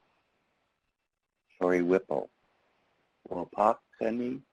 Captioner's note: speaking in foreign language